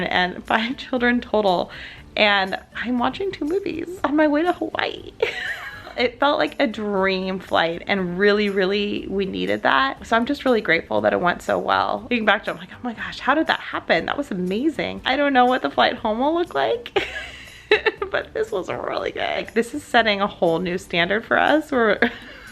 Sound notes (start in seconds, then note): 17.2 laughs